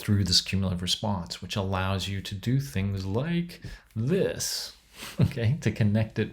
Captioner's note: chuckles